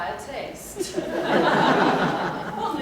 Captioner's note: laughter